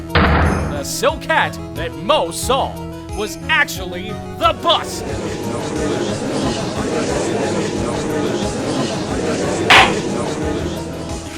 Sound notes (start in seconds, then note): 5.8 gallery chattering!; 9.7 gavel slams!